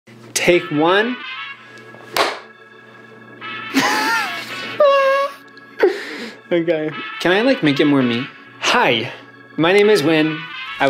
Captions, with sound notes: - Take one. (clapperboard slamming) (laughing) Okay, can I make it more me? Hi, my name is Wyn.